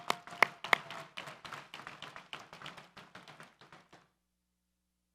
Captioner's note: audience applauds